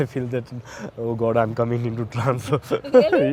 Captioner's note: chuckles